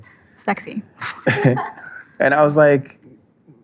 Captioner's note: laughing